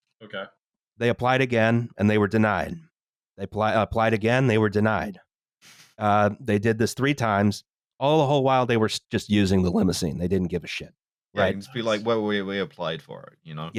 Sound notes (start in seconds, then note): 11.7 whispering